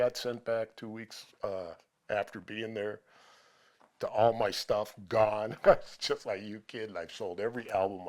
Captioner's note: laughter